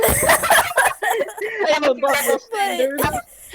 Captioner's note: collective laughter; laugh